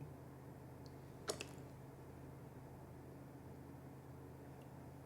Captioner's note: limoncello sloshes